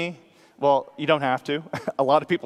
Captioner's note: laughs